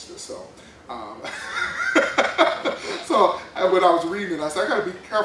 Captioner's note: laughs